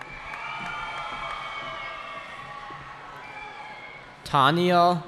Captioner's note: cheering